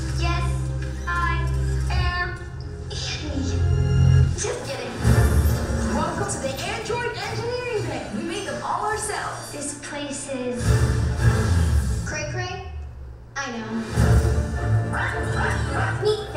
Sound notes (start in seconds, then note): 0.0 voiceover; 9.7 voiceover